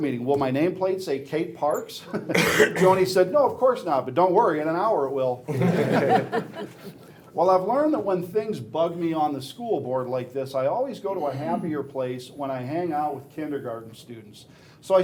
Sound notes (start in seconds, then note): 5.5 laughing